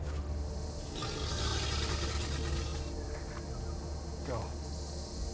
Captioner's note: growling